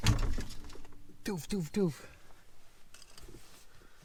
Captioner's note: imitates banging